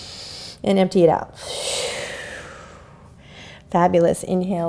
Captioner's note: inhales; exhales